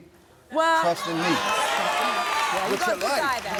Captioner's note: audience applauding and cheering